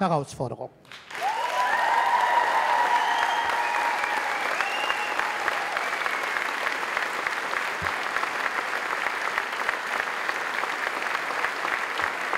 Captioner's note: applause